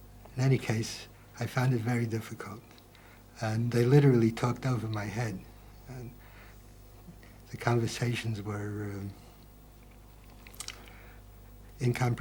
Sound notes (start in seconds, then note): none